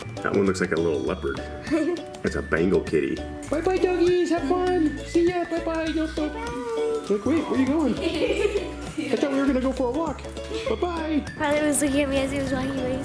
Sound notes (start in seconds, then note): 7.8 laughs